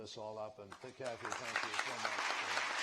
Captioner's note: applause